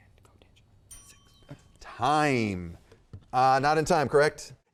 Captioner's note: timer dinging